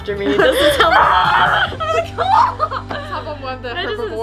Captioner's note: screams; roars